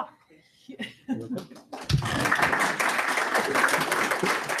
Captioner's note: applause